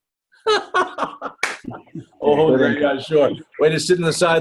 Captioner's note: laughs